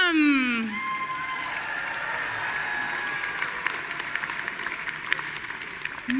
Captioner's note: audience cheering and applauding